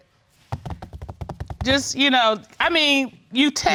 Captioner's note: tapping fingers